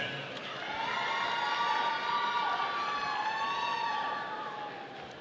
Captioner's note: audience cheering